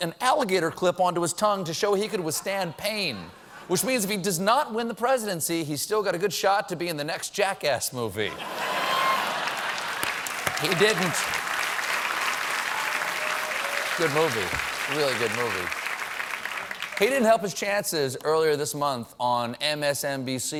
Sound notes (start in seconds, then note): 8.3 laughter; 8.7 applause